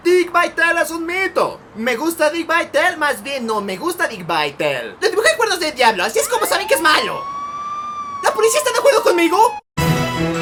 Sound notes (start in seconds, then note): 6.1 police siren